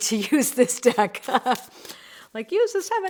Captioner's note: laughs